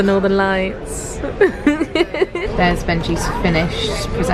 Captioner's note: laughs